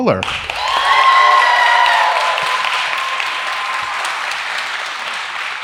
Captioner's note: audience cheers